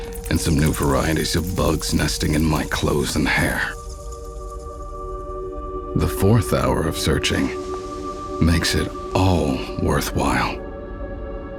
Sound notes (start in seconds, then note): 4.0 gorjeo de insectos